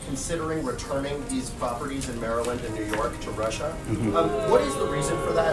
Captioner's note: boo track